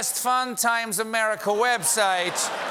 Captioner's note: russian accent